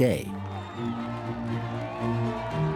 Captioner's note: crowd cheering